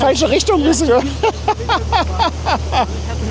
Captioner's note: laughs